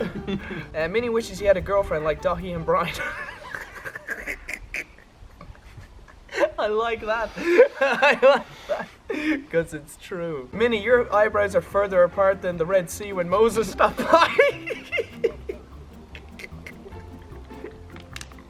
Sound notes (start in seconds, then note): 4.5 laugh; 13.7 laugh